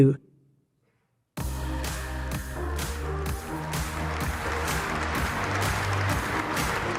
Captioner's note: applause